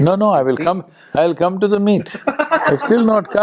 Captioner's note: laughter